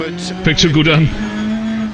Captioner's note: sarcastically